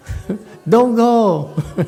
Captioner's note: laughs